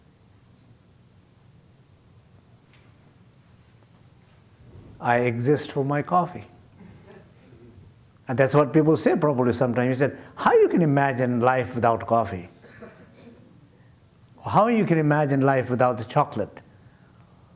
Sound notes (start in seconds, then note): 6.8 laughter